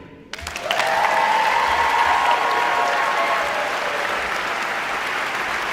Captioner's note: audience cheering and applauding